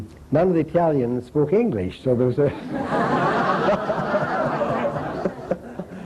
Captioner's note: laughter